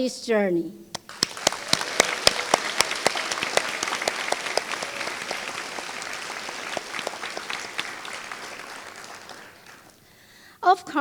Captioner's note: applause